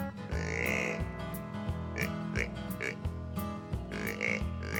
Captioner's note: animal calling